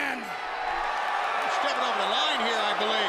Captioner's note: crowd chatter